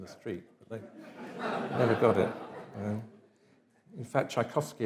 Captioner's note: audience laughs